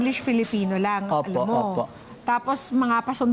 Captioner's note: politely